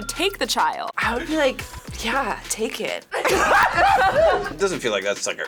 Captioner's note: group laughs